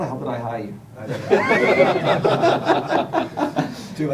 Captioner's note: laughter